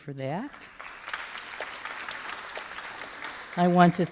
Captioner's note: applause